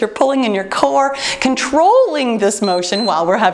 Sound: timer beeps

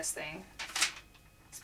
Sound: pages turning

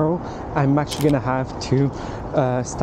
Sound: camera clicking

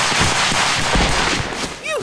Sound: bullets blaring

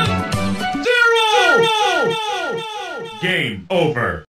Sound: echoing

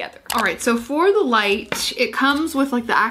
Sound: mouse clicks

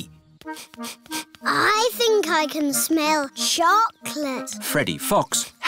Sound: sniffs

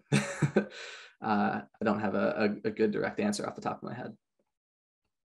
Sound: chuckles

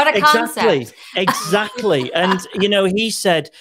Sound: Christine laughing

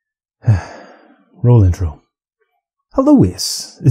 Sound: sigh

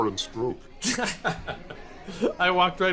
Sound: laughing

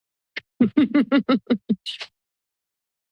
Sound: laughter

